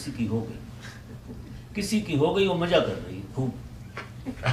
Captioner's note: audience laughs